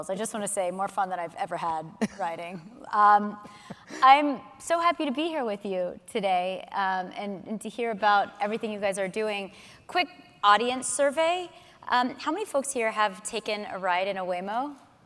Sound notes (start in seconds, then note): 2.0 laughing